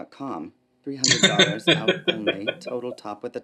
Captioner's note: laughing